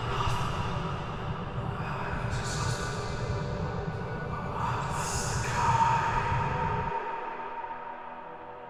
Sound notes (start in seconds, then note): 4.1 voice echoed